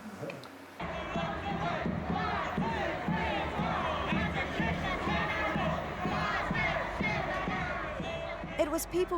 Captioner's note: chanting